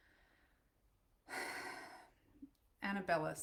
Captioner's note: sighing heavily